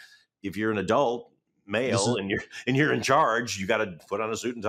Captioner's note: chuckles